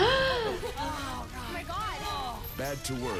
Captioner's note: gasps